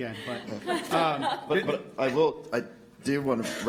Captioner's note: laughter